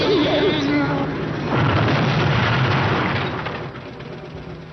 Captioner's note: boom